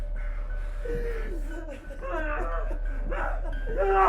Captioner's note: Sue sobbing; Skull-Faced Assailant growling